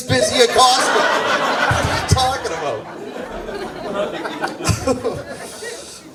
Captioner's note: audience laughs